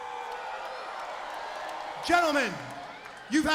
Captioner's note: crowd cheering